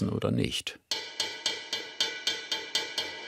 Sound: clinking

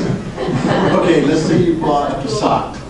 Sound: class laughs

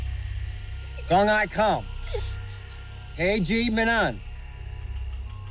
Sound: speaking Vietnamese to Dao

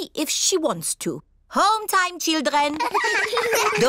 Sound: all giggle

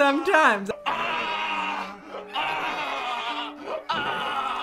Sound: man screaming

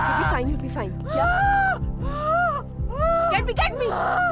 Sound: screaming

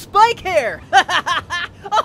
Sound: laughter

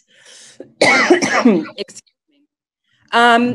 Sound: coughs

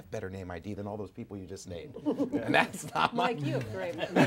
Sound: laughter

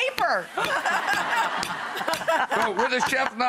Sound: laughter

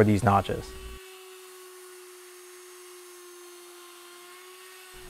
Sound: router buzzing

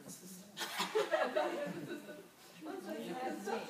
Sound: group laughs

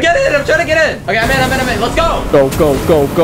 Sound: boat engine roaring

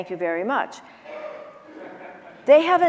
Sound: audience chuckling

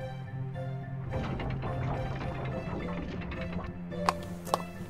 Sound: portcullis opens

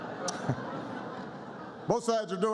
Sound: laughter

